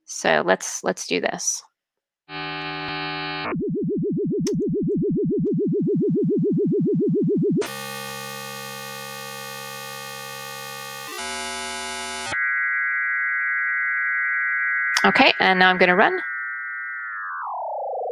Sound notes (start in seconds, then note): 2.4 electronic sound effects